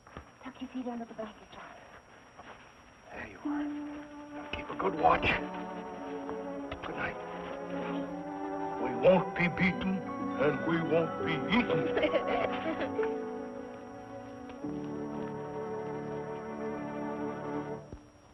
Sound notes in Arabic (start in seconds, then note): 10.8 يضحك